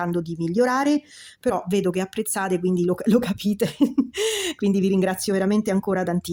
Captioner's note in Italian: risate